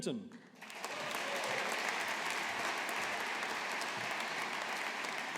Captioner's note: audience applauding